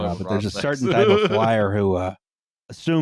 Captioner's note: laughs